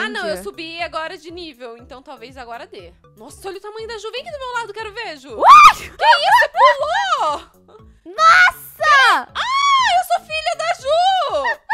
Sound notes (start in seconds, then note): 5.4 screams